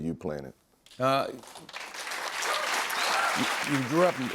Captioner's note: cheers and applause